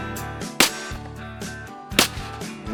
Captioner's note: gunfire shot